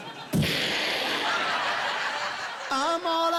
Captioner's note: imitating gunfire